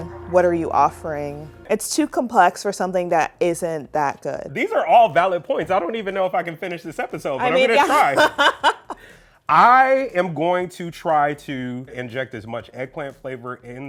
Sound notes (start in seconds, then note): 7.4 laughing